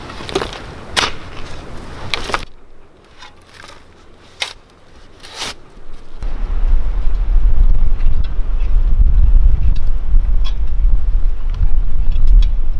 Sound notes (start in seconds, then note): 0.1 dirt rustling; 0.9 shovel thudding; 9.1 rake scraping